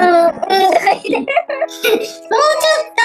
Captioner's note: laughs